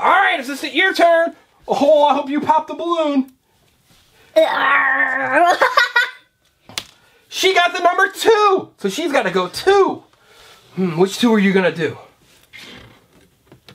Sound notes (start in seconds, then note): 4.5 growling; 5.0 laughing